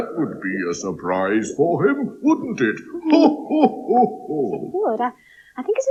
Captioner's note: Cauldron Laughs